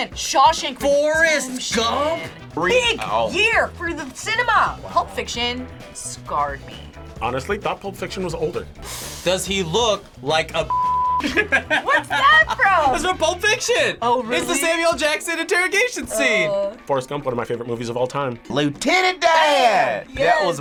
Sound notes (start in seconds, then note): 10.7 beeping; 11.2 laughs